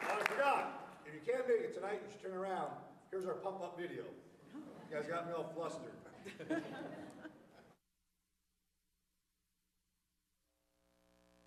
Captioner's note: applause